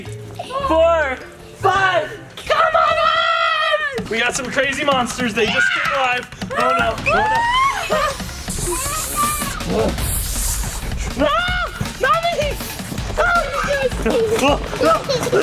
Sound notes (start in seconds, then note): 7.0 screams; 8.5 drums beating fast; 11.2 screams; 14.7 baby giggling